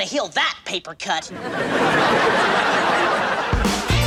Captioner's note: audience laughs; upbeat music